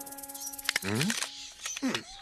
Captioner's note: grunting